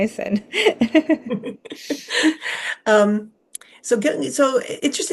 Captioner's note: both chuckling